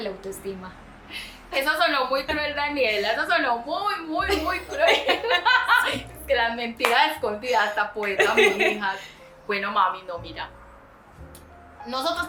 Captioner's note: laughs